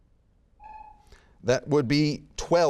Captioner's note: buzzer beeping